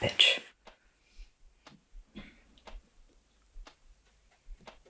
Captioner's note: clock ticking